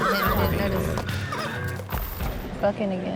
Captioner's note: horse neighing